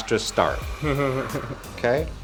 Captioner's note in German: lachen